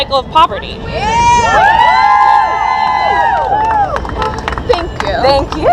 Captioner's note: cheers